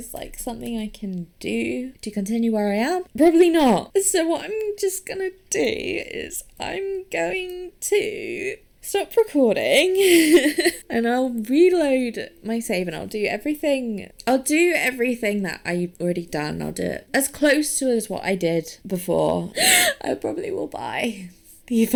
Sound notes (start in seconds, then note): 10.0 laughs; 19.6 wheezes